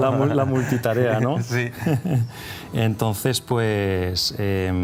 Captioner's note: laughs